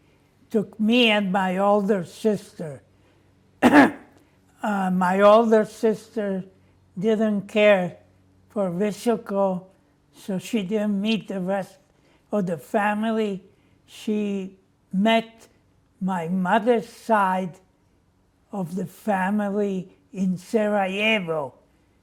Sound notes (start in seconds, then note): 3.6 clears throat